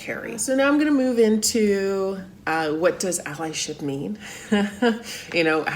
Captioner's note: laughs